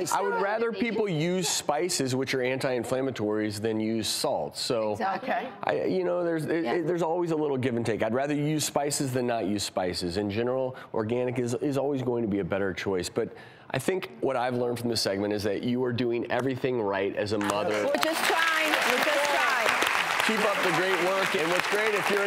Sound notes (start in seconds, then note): 19.2 applause